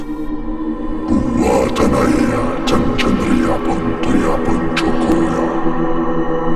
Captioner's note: eerie music; demonic vocalizing